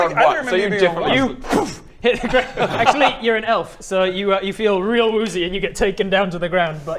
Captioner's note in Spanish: boomf